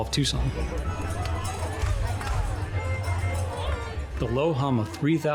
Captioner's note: people chatting